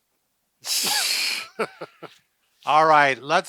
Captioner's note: laughing